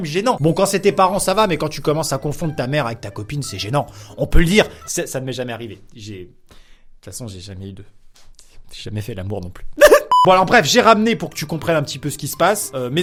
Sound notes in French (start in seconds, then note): 9.8 pleure